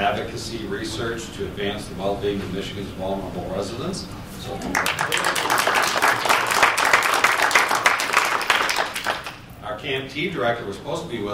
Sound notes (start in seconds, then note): 4.6 applause